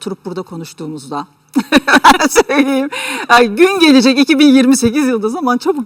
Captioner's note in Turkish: kahkaha